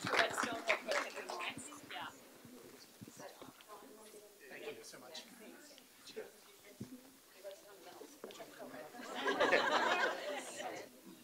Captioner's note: applause